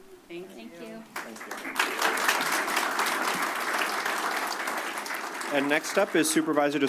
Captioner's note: applause